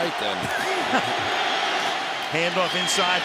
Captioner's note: laughter